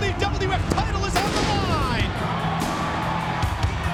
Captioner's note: pyro bangs; audience cheers